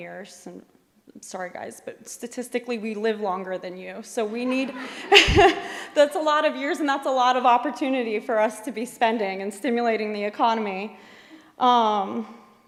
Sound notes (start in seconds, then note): 4.3 laughter; 4.3 laughs